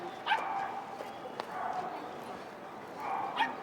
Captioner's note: dogs barking